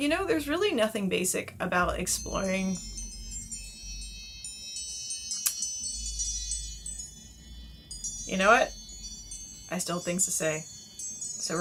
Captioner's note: phone chime goes off